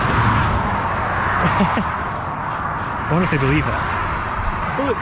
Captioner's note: laughing